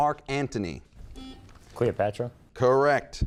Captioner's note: buzzer beeping